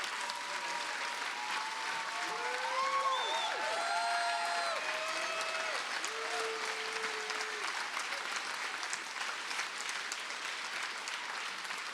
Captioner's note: cheers and applause